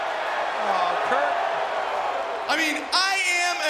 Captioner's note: crowd exclaiming